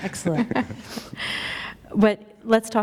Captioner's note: chuckle